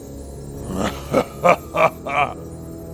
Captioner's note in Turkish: Gülme sesi